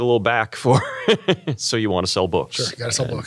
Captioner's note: laugh